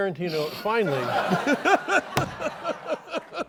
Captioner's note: laughter